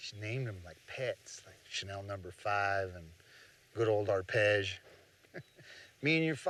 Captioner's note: laughs